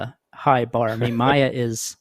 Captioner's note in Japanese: 笑い